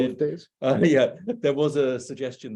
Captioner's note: laughing